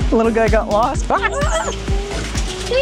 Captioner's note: gasping